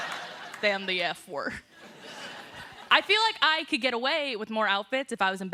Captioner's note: laughter